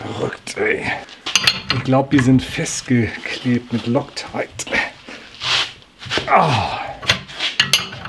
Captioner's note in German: stöhnt